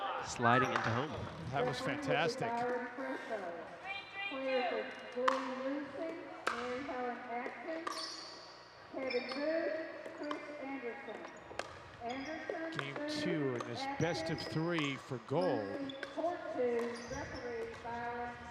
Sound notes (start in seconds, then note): 6.8 ball thudding